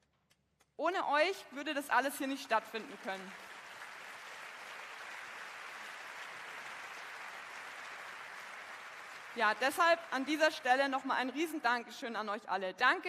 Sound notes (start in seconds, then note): 3.6 applause